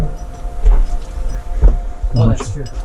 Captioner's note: metallic clattering; thumping